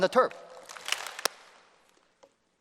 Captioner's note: applause